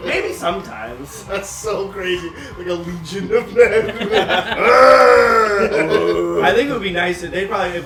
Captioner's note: laughter